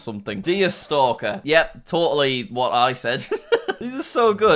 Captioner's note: laughing